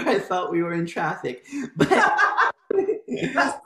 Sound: laughter

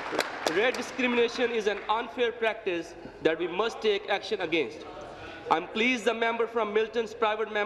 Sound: applause

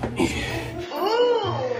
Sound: grunts

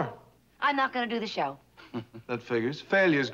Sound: laughs

